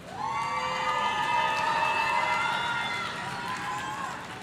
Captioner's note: audience cheering